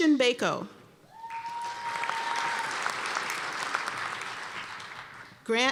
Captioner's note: cheers and applause